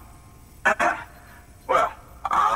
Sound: clears throat

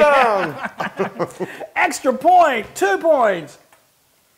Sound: laugh

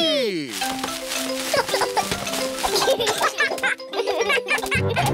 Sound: peppa and george giggle

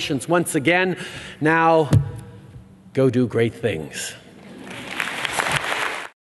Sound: applause

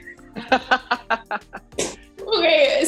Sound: all laughing

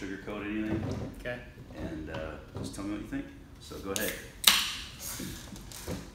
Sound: can cracks open

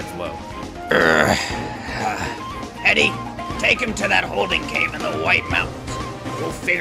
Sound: sigh

